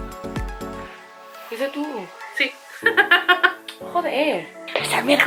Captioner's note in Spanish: risas